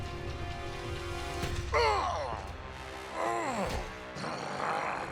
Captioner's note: groaning